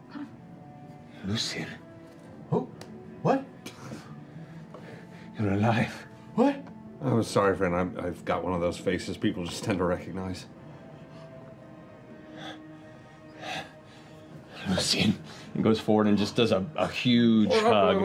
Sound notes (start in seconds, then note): 4.2 incredulous; 11.0 gasping in disbelief